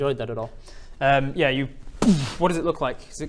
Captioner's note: boom!